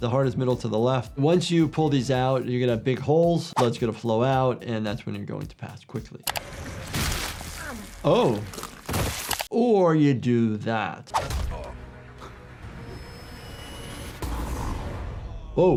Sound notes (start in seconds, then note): 6.5 weapon smashing; 8.4 body thudding; 11.2 person grunts; 12.9 lasers buzzing